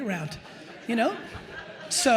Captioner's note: attendees laughing